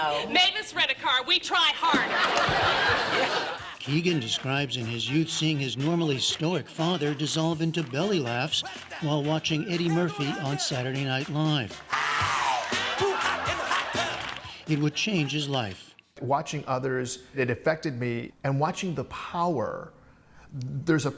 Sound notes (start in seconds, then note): 1.9 laughter